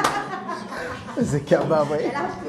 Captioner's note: rires